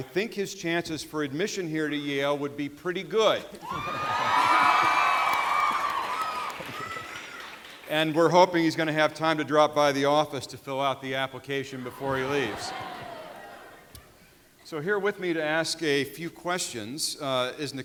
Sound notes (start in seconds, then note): 3.6 audience cheering